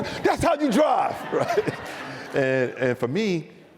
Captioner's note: audience laughs